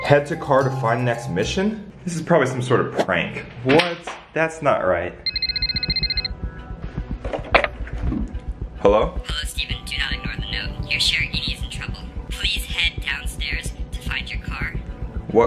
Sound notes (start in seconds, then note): 5.2 phone ringing